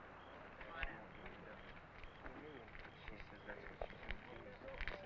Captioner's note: crowd chattering